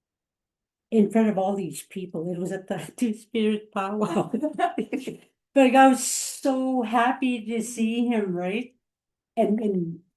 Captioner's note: laughter